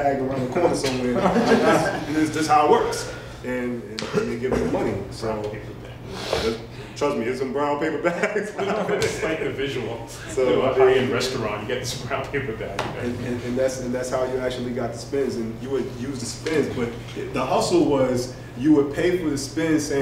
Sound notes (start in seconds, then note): 1.1 laughter